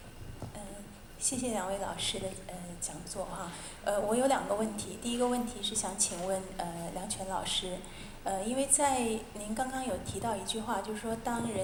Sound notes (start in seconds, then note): 1.8 Mandarin